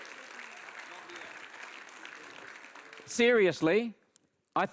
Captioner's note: audience applauds